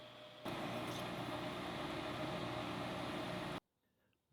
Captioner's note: machine whirring